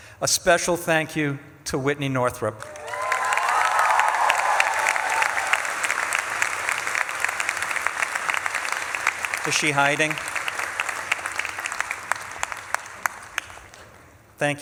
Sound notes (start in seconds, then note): 3.0 audience claps and cheers; 11.0 audience claps